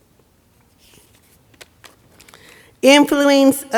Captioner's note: notes shuffling